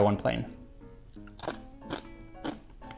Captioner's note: crunch